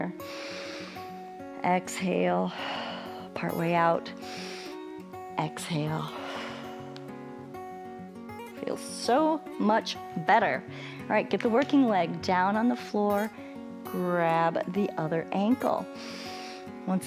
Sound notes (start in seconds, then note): 0.1 inhales; 4.2 exhales; 15.9 inhales